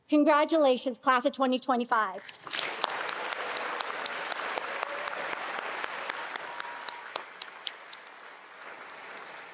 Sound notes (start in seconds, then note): 2.5 attendees applauding and cheering